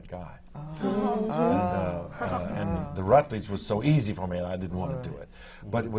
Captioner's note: murmurs of appreciation from the panel